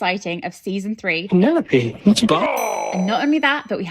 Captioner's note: bell ringing